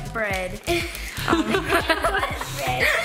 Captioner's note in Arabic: يضحك